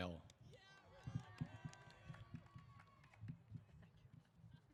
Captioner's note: applause & Cheers